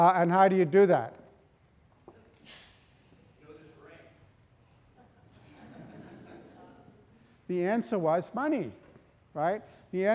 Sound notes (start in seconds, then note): 5.0 audience laughing